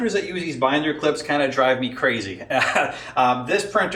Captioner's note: laughs